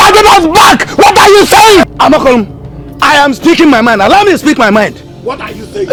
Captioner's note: screaming